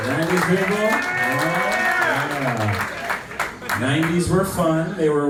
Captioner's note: clapping